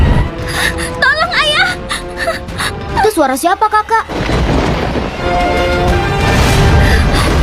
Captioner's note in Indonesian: menangis